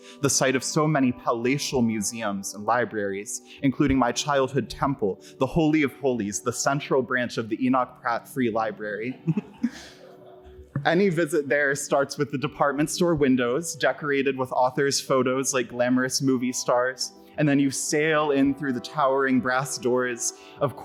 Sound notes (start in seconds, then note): 9.2 audience laughs